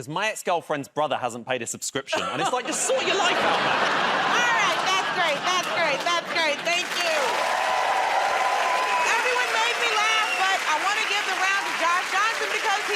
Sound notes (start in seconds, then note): 2.1 laughter; 7.8 cheering and applause